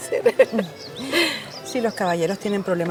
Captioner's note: Wilma laughs